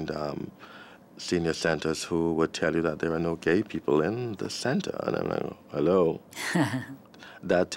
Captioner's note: chuckles